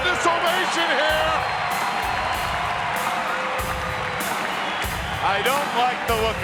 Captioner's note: crowd cheering; upbeat music